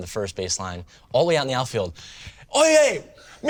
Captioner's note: yells in Spanish